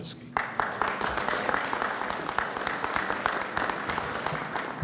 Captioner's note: audience applauds